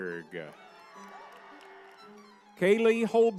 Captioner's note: crowd cheering